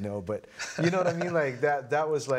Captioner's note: laughing